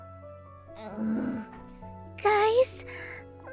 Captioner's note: growls